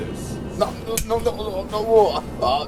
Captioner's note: stuttering